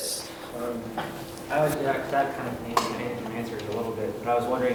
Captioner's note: murmurs